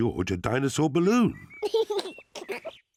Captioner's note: giggles